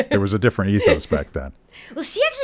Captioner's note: laughing